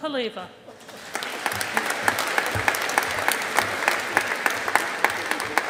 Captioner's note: audience applauding